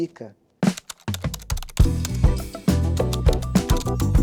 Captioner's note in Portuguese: Typing